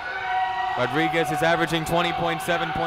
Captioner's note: crowd noise